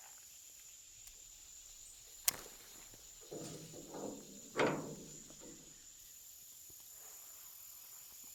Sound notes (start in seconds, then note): 2.1 match lights; 2.6 metal clanking